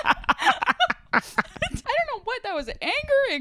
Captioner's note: laughs